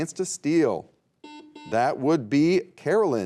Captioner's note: buzzer beeping